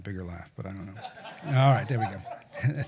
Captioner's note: laughing